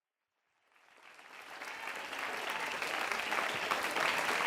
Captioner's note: applause